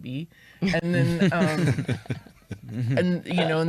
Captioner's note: chuckles